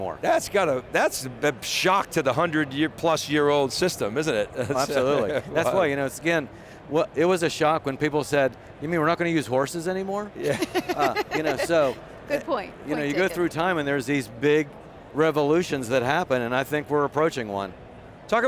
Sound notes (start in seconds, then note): 4.6 laughs; 10.4 laughs